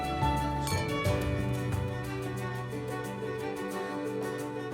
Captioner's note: gentle orchestral music continues; glasses clinking